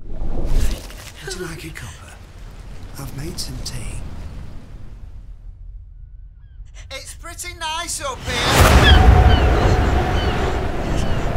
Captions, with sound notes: [raining sounds] OLD MAN Would you like a cuppa? I've made some tea STANLEY It's pretty nice up here! [loud seagull sounds and wind]